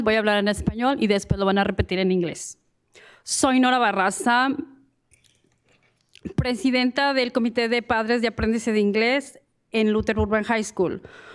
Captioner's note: speaking in spanish